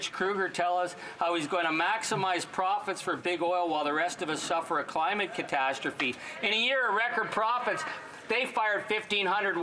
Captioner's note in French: voix de l'interprète